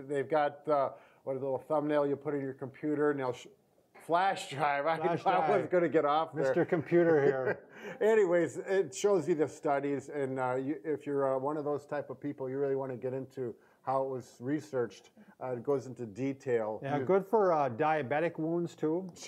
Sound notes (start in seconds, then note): 7.0 chuckle